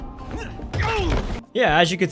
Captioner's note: hurting noises